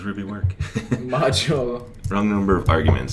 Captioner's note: chuckles